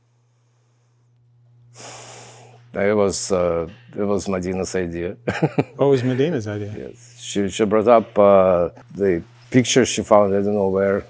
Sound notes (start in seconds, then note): 0.1 sighs; 5.3 laughing